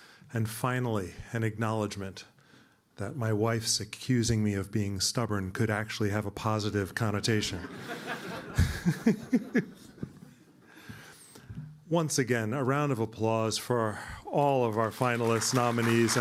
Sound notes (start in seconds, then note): 7.4 laughter